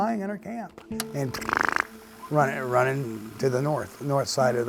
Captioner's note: imitating footsteps